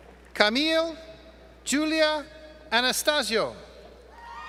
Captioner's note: cheers from audience